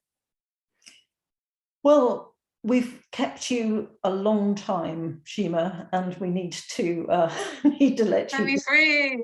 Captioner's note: laughter